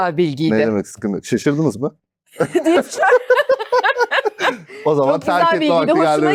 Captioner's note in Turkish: kahkaha